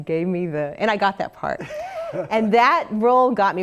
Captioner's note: laugh